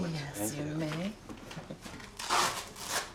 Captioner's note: velcro ripping